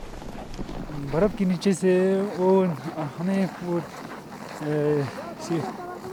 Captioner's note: speaking foreign language